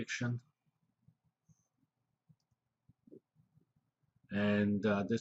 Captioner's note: pause